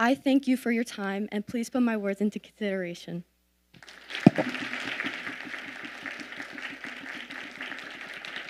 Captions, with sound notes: I thank you for your time and please put my words into consideration. (audience applauding)